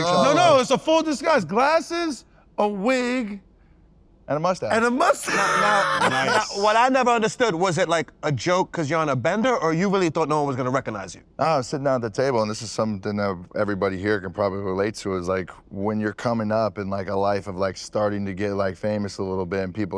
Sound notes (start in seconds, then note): 4.9 laughs